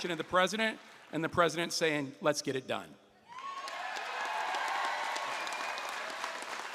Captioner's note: applause